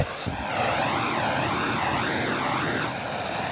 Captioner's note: continued hissing